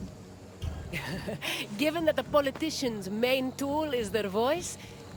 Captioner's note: &laugh